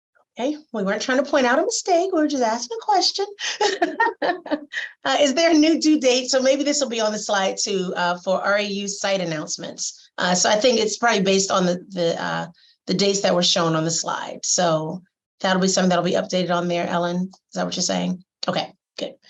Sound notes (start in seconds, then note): 3.4 laughter